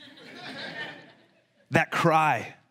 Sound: congregation laughs

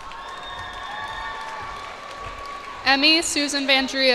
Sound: cheers and applause

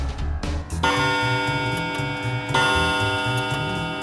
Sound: clock chimes

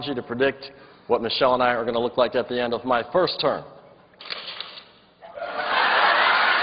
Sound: laughter

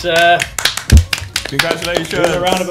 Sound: students claps

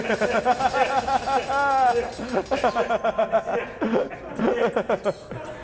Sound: laugh

